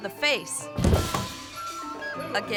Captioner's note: bright music continues; body thuds